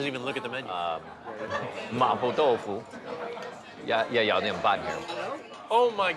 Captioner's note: speaking Chinese dialect